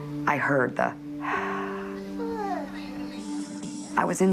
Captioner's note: gasping